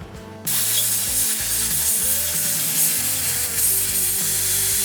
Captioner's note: machine noises